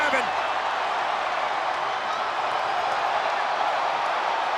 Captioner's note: crowd cheers